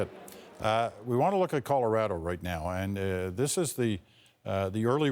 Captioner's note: laughter